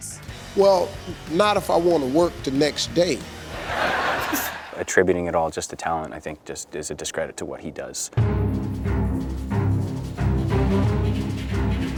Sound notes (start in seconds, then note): 3.4 audience laughing; 3.6 chuckling; 8.2 dramatic music